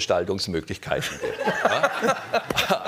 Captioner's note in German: Lachen